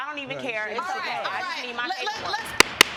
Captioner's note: banging gavel